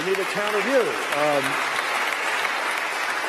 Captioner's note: applause